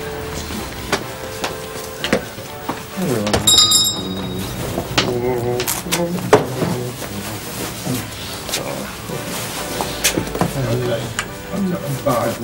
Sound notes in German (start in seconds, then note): 3.6 Brummen